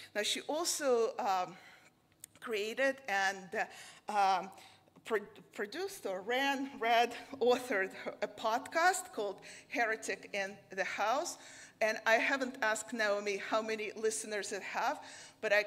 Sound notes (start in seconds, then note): none